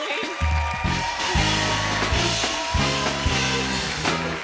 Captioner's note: cheers and applause